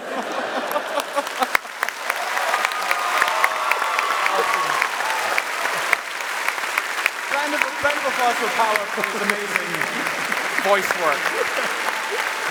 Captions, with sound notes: (Applause) Round of applause for Paweł, he was amazing voice work.